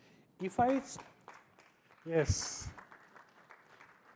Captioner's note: applause